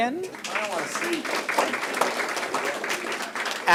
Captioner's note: applause